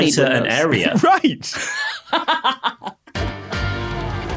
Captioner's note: laughs heartily